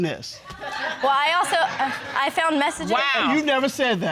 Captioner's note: audience laughing